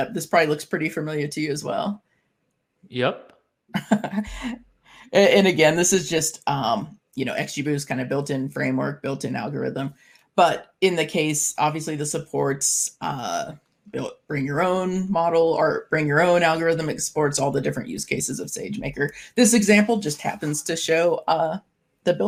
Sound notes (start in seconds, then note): 3.8 chuckling